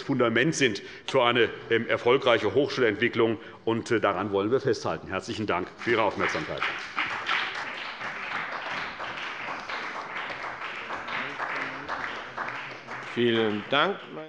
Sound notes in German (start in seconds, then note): 7.8 Beifall bei der CDU und dem BÜNDNIS 90/DIE GRÜNEN